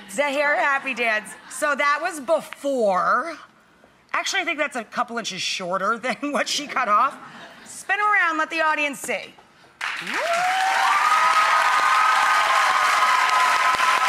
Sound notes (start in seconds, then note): 9.9 cheering